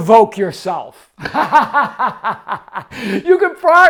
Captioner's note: laughs